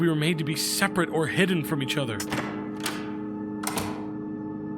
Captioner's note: door clicks